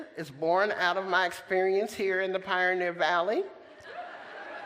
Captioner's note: laughter